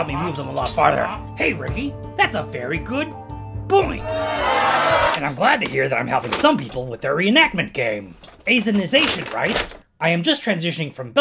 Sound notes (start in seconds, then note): 4.0 booing